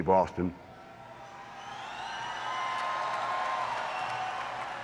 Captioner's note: audience cheering